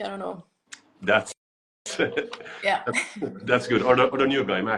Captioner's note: laughs